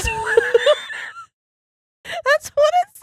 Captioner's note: laughing